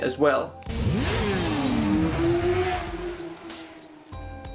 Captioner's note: engine revving; mellow music